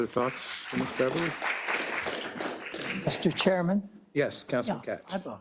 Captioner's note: applause